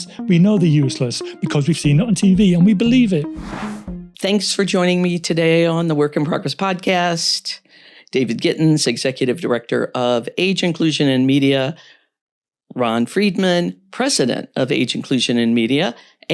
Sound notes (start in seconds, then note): 3.3 air whooshing; 3.4 soft upbeat music